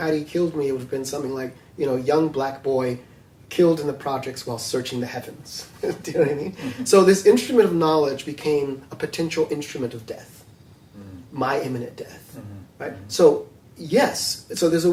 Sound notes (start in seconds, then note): 5.8 laughs